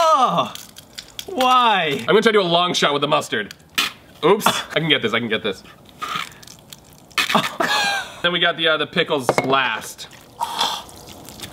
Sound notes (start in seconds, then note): 7.3 laughing